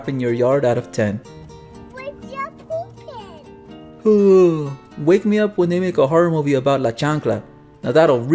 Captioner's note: yawn